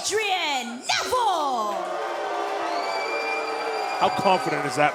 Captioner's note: cheers & boos